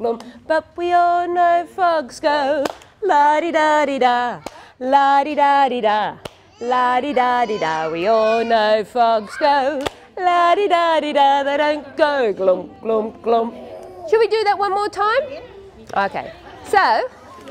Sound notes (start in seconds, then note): 2.6 clap; 9.7 clap